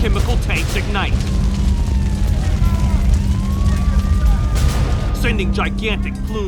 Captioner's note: sirens wailing